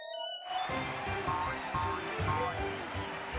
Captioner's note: audience cheering